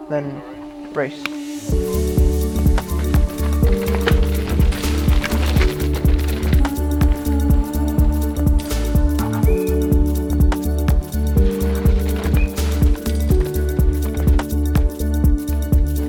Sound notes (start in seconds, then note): 0.7 pedal clicks in!; 3.3 bike tearing through mud; 9.3 whistle, sound of bike skidding